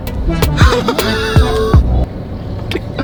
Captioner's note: cries in Urdu